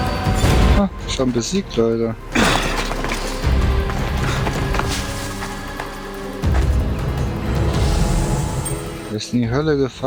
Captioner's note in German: schnauben